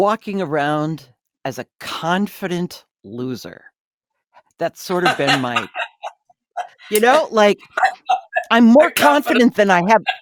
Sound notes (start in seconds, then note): 4.8 laughs